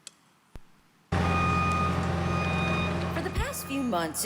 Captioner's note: construction sounds